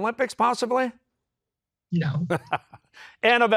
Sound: laughs

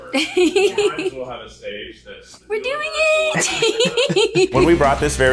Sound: laughs

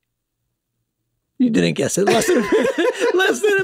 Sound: Rob laughs

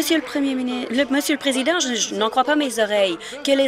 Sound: applause

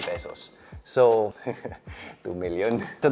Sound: chuckles

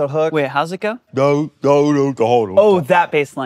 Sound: imitates bass guitar

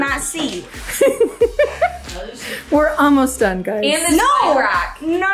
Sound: laughing

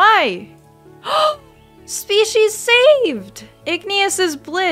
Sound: gasp

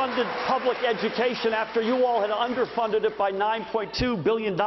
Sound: applause

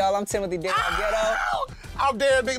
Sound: screams

